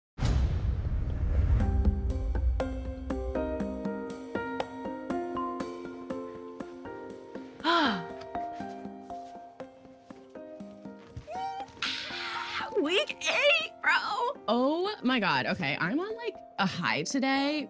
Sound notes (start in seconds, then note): 7.6 sighs; 10.3 squeals